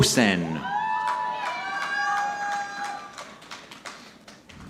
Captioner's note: audience clapping